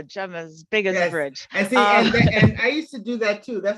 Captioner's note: laughter